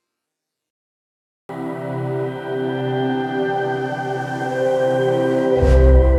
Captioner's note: speaks in a foreign language